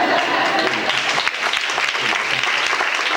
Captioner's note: applause